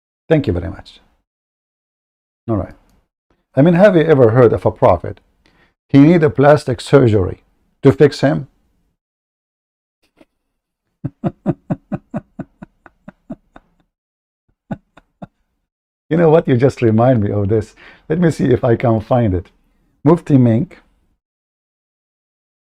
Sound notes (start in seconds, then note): 11.0 Ketawa